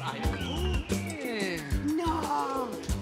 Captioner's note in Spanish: Silbidos